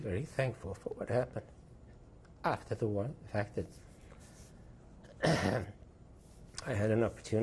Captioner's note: tearful; clears throat